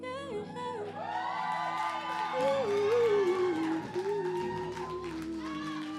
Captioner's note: audience cheering and clapping